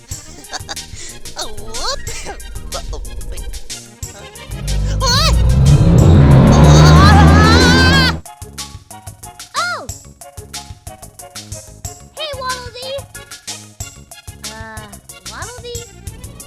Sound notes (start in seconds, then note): 0.0 chuckles; 4.9 gasp